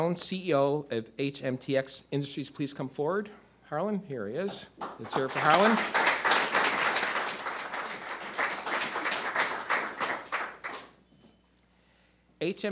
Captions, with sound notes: Will Harlan Stone, CEO of HMTX Industries, please come forward? Harlan, here he is. Let's hear it for Harlan. (audience applause)